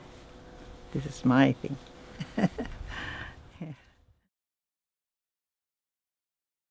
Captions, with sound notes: This is my thing. (laughs)